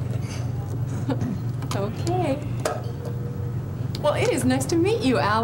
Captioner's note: giggles